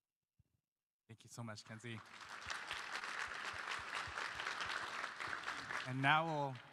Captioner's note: applause